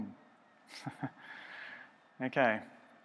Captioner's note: chuckles